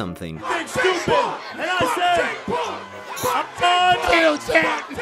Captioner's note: yelling x4